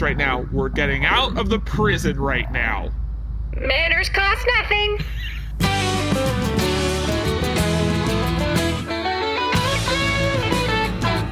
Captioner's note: sweetly